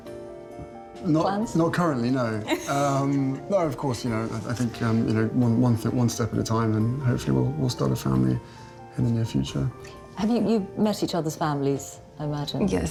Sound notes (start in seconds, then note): 2.4 Meghan laughs